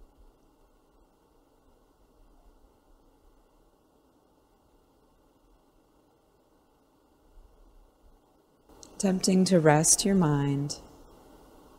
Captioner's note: silence